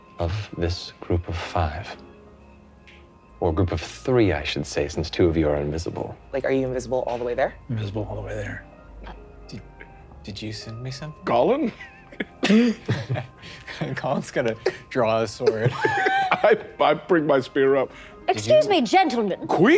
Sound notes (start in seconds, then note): 11.7 laughing